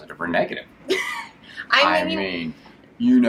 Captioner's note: laughs